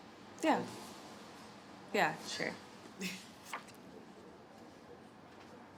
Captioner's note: laughs